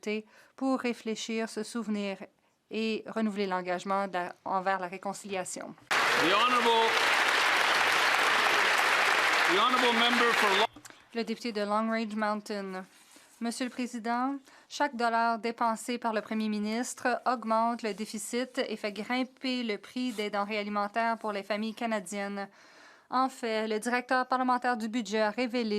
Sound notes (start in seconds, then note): 8.2 applause